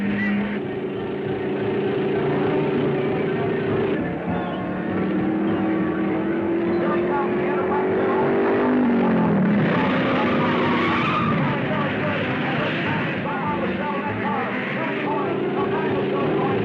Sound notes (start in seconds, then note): 0.1 car thrumming; 4.4 car whirring; 8.6 tires squealing; 14.2 car revving